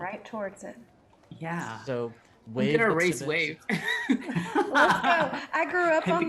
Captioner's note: laughs